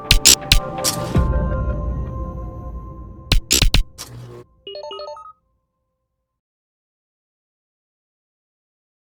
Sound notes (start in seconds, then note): 3.3 beeping